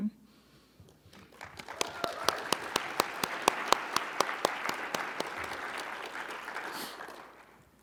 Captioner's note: audience applauding; audience cheering